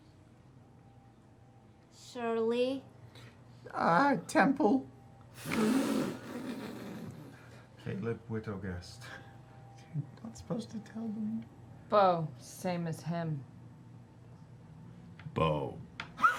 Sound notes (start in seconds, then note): 4.9 muffled laughter